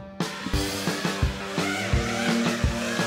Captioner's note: drone sounds